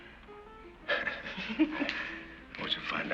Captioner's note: both laugh